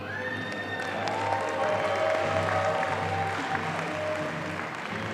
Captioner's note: audience applauding